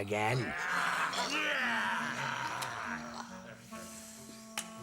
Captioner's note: devils groaning